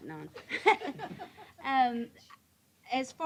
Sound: chuckling

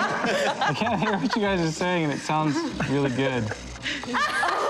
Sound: laughter

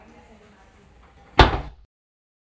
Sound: thud

